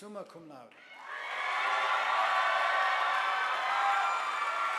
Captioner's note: audience applauding